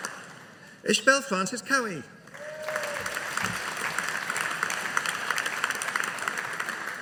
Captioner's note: audience applauding